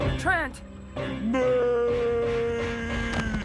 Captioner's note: slow motion scream